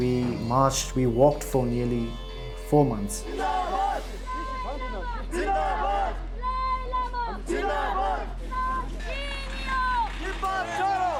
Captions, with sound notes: we walked for nearly four months. (shouts in foreign language)